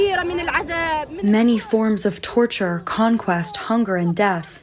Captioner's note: through translator